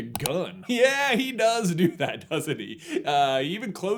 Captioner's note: laughing